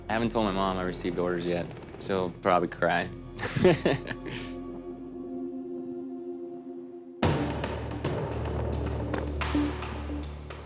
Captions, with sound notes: I haven't told my mom I received orders yet. She'll probably cry. (laughs) (suspenseful music)